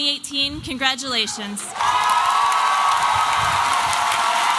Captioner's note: applause and cheering